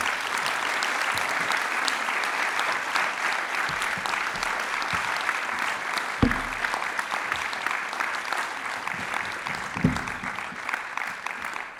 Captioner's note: applause